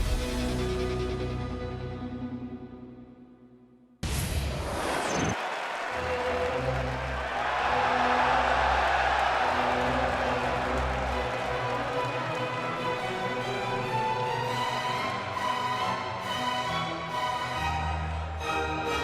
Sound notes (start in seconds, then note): 7.4 crowd cheering